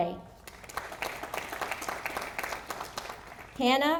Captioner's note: audience applauding